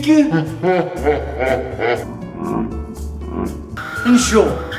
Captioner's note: guffawing